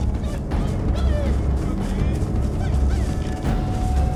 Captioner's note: whistling